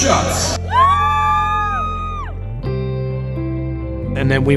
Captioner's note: crowd cheering